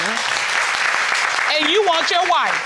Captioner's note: all applauding